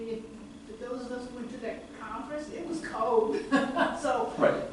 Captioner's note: laughs